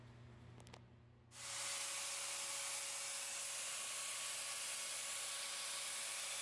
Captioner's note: angle grinder sounds